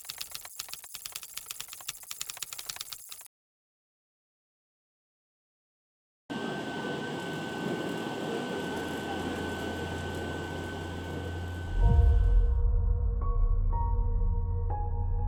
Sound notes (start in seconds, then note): 0.0 keyboard clacking continues; 6.7 machine thrumming